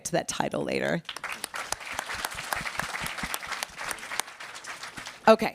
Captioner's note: applause